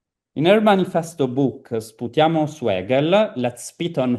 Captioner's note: italian